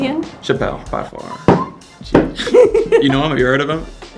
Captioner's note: stomps foot